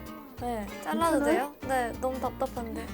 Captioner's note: surprised